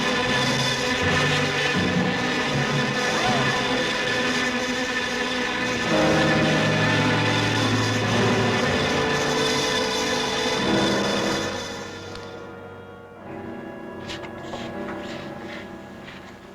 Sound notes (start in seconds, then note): 0.0 screaming; 0.2 dramatic music; 4.3 engine revving